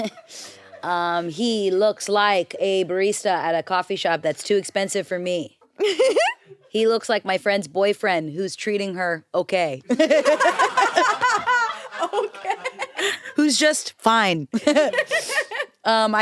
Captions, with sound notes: He looks like a barista at a coffee shop that's too expensive for me. He looks like my friend's boyfriend who's treating her okay. (everyone laughs) - Okay. (laughs) - Who's just fine. (laughs)